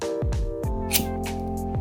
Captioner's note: lighter sparking